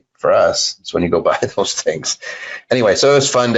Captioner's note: laughs